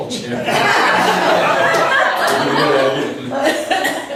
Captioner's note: laughs